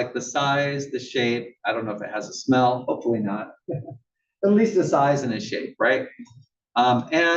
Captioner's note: laugh